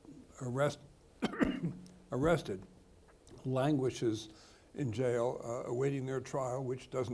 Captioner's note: coughs